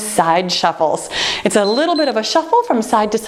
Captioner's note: timer beeps